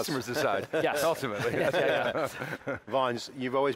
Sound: laughs

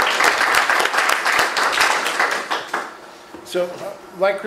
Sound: clapping

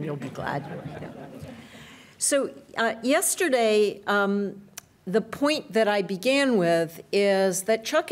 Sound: laughter

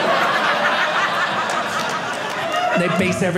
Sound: audience laughing

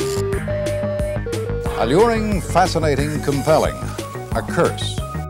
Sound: digital tones and beeps

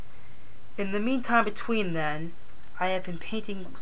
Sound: butchered English

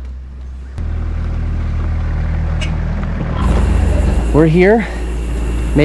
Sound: truck engine roaring

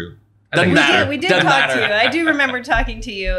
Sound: laughs

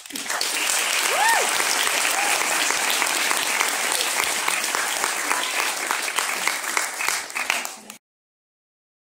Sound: audience clapping

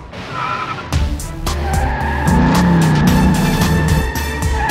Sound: tires screeching

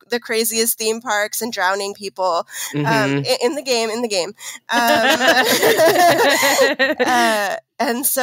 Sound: laughing

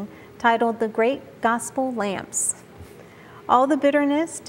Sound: none

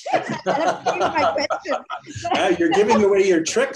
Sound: laughing

